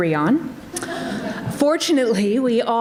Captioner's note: audience laughs